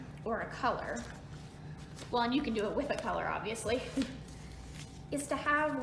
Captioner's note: chuckles